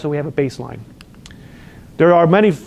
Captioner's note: lip smacks